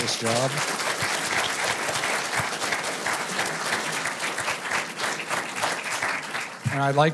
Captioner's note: applause